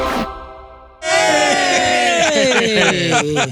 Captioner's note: dramatic music; cheering